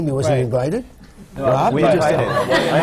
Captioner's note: laughter